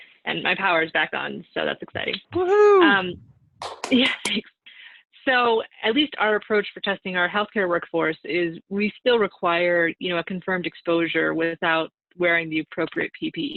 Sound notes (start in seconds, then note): 3.6 cheering and clapping